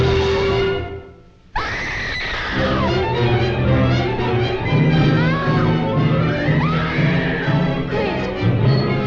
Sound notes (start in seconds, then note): 0.7 Christine screaming; 0.7 dramatic music